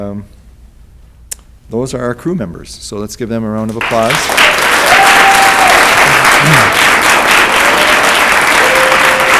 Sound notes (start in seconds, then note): 3.7 audience applauds